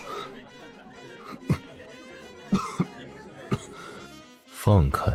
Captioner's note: cough cough cough